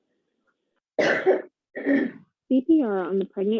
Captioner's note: participant coughing